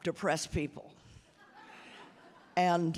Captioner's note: audience laughing